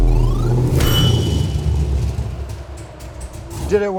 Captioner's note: lever chimes